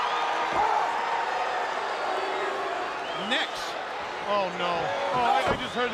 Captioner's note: crowd chatter